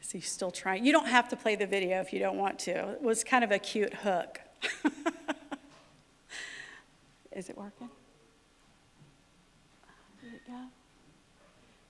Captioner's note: laughter